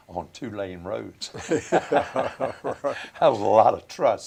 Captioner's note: laughter